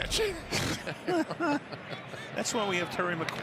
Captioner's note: laughter